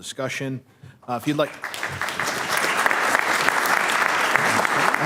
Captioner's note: applause